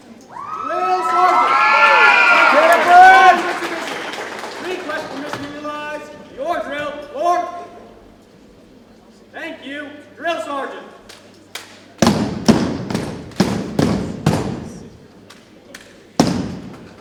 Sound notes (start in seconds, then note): 0.3 audience cheering and applauding; 12.0 boots thumping